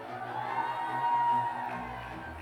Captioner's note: cheers